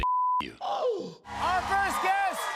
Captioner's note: gasps